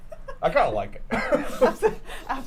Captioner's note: laughs